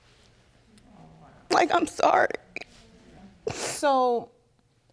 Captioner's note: sniffling